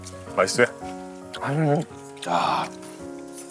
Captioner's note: exclaiming